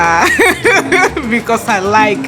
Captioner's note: laughs